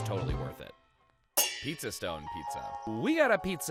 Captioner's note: metal clangs